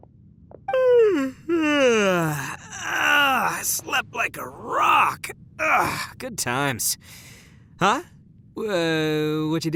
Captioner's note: yawn